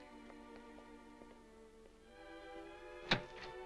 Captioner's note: gentle music; footsteps approaching; door creaking